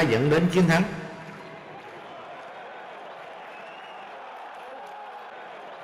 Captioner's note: cheering